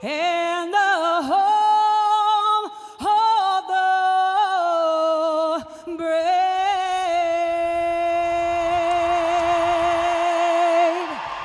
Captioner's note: audience Cheers